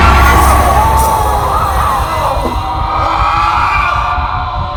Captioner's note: screaming; Tony screams